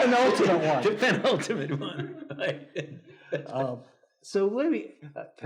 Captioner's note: laughs